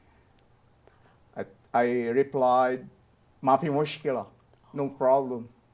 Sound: speaking Arabic

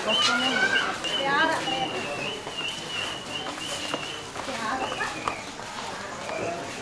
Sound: horse-drawn carriage

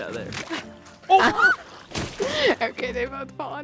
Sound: squeals

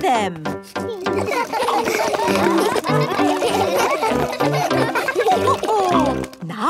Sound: all laugh

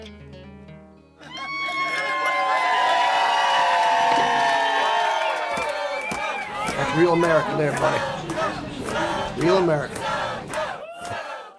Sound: cheers

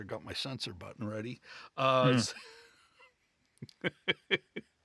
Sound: laughter

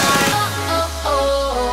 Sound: echo

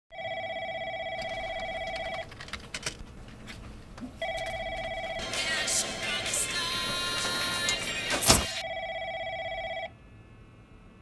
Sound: phone ringing, people working, listening to music

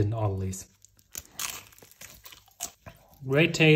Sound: bread crunching

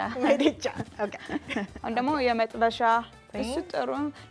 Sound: speaking Amharic

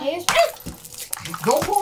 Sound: popping

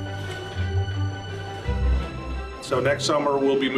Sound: upbeat music; dishes clanking

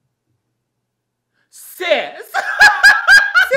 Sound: laughs

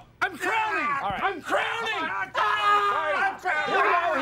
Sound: both screaming

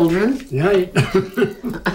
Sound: laughs

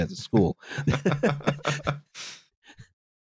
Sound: laughter

